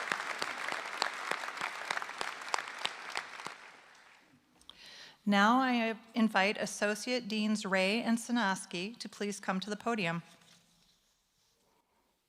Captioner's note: applause